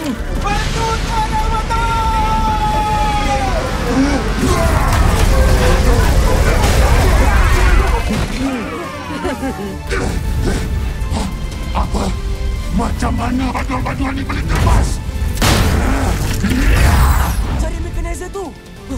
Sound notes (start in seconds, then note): 0.4 yelling; 4.4 robots all grunting, yelling; 8.8 both laugh; 15.7 growls furiously